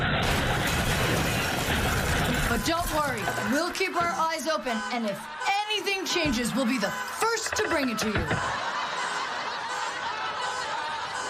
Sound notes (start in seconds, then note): 1.8 tires skidding; 2.5 laughing